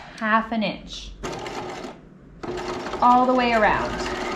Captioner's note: sewing machine whirling